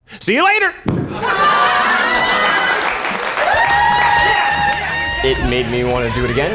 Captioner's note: audience laughing and cheering